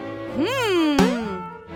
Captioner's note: boing